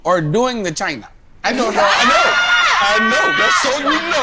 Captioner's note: everyone laughing